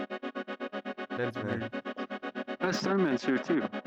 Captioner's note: chatter